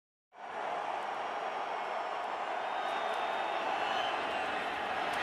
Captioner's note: cheering